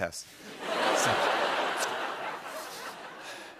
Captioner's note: laughter